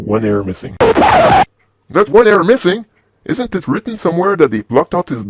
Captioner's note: record scratch